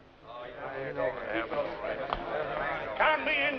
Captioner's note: grumbling and muttering